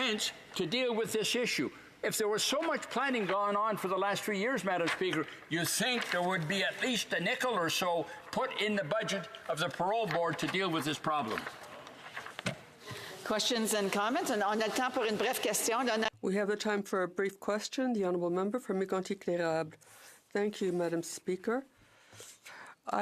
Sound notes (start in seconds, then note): 20.4 speaking French